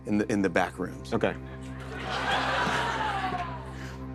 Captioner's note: laughter